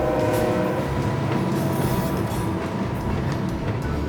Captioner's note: train tracks rumbling